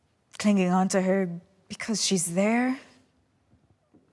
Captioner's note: none